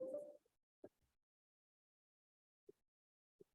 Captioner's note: computer beeps